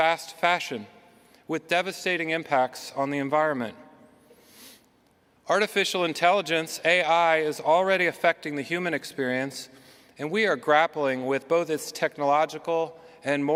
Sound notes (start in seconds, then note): none